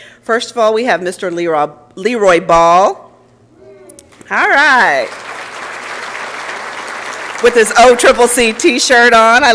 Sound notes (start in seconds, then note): 4.9 applause